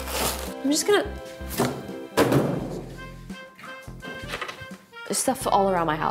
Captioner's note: box crashes on floor